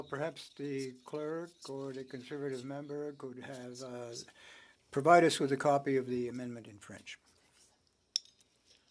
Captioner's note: speaking French